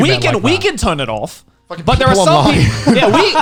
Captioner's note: laughs